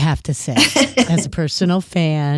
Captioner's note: laughs